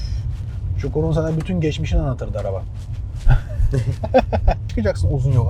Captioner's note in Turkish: kahkaha